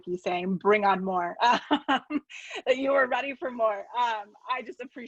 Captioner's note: laughs